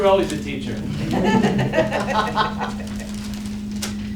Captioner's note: laughing